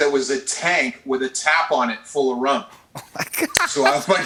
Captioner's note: laughing